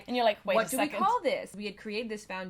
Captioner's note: laughs